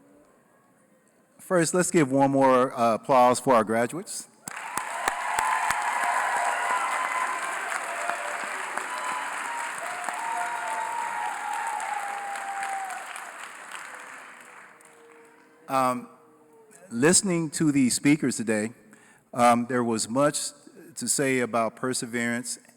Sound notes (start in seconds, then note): 4.4 applause